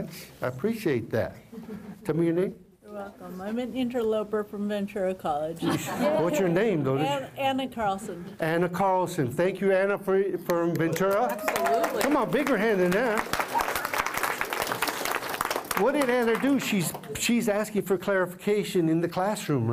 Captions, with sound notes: I appreciate that. Tell me your name. >> You're welcome. I'm an interloper from Ventura College. >> What's your name, though? >> Anna Carlson. >> Anna Carlson. Thank you, Anna from Ventura. >> Absolutely. [ Applause ] >> Come on, a bigger hand than that. [ Applause ] What did Anna do? She's asking for clarification in the classroom.